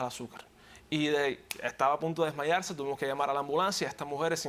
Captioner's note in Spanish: Chasquea dedos